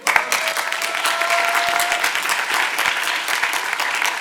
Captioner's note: audience applauding